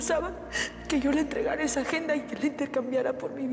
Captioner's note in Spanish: Sollozos